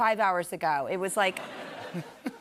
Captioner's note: laughter